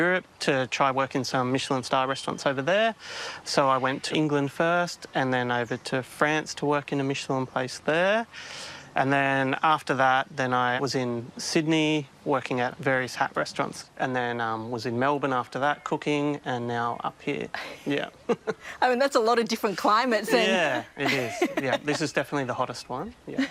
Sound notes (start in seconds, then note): 17.6 laughs